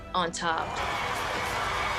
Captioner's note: cheering